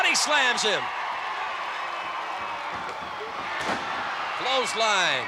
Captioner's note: applause